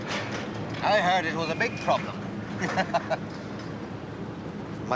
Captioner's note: chuckles